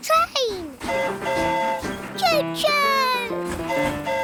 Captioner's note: train horn hooting